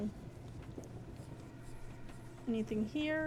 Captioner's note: menacing Whispers